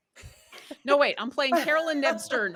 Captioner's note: everyone laughs